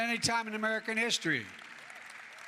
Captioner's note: applause